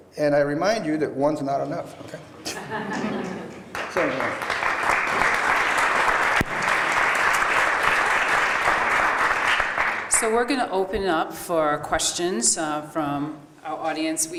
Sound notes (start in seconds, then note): 3.6 applause